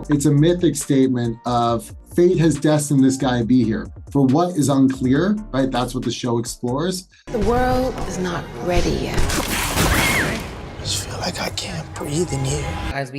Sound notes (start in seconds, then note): 9.3 wall cracking; 9.8 high pitched scream